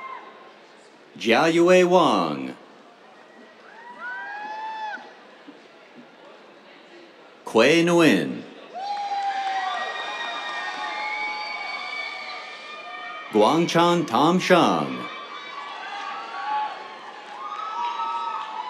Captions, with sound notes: Jiayue Wang. [CHEERS] Khue Nguyen. [CHEERS, APPLAUSE] Guangchuan Tom Shang. [CHEERS, APPLAUSE]